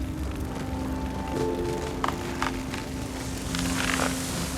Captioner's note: flames flickering